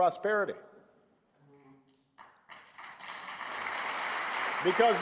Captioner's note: applause